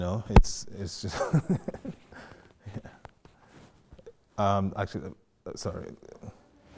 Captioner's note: laughing